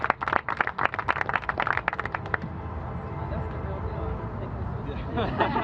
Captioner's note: applause